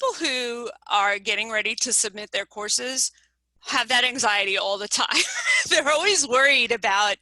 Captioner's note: laughter